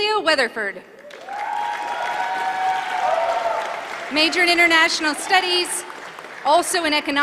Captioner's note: applause